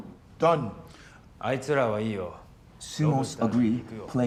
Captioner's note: speaking in foreign language